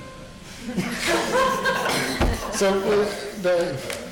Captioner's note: audience laughing